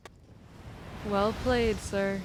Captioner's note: waves crashing